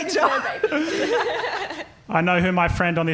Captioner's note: laughing